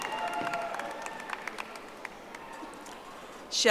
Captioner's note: audience applauding